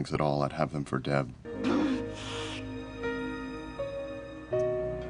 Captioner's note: Dexter sobbing